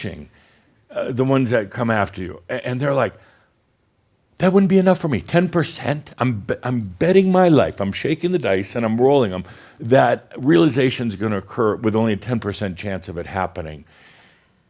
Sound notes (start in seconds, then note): none